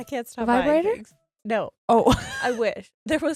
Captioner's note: laughs